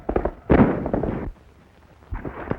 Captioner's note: gunshot